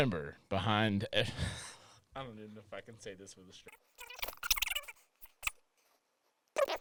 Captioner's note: laughs